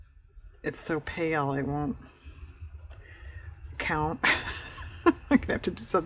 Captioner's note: laughs